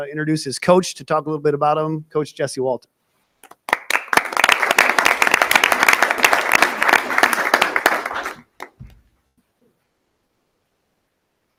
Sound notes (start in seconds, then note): 3.4 audience applauding